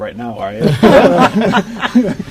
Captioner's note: laughter